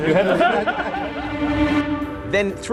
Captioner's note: laughter